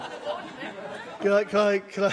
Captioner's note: laughter